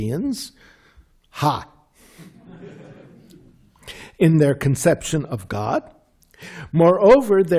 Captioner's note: laughter